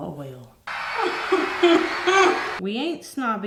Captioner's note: crowd cheering